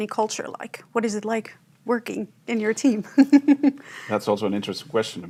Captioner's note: chuckles